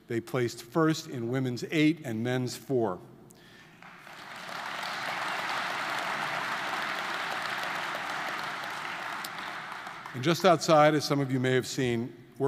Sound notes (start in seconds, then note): 3.8 audience applauding